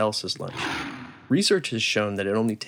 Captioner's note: sound effects: beast roars